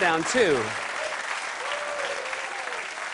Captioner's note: cheers and applause